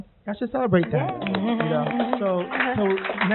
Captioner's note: applauding